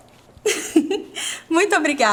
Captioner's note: laughs